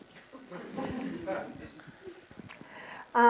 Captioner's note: laughter